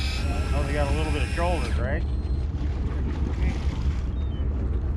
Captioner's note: winch motor whirring